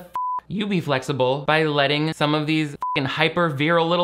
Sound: beep; beep

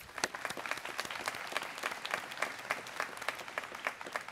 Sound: students clapping

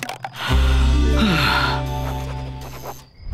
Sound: sighing

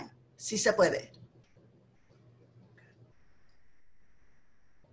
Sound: speaking Spanish

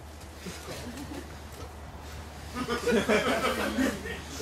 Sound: laughter

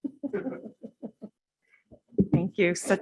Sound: laughter

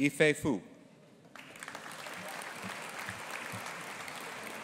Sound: audience applauding

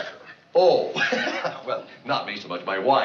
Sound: laughing

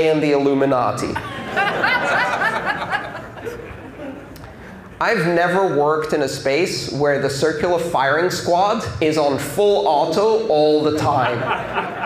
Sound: laughter

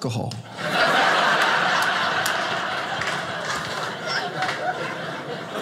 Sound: audience laughing

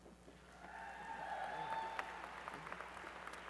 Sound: applause and cheering

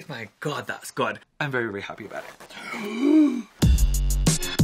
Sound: gasps; upbeat music

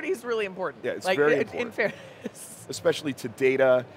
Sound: laughs

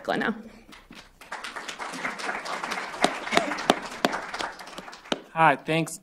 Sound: applause

